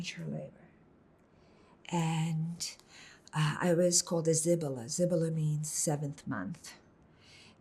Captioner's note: hebrew